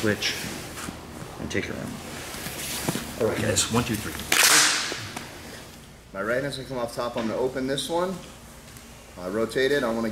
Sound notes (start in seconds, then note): 4.3 hands clap